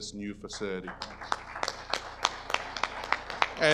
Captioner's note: audience applause